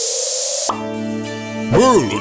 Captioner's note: pop